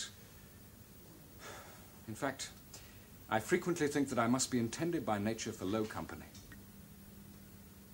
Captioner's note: sighs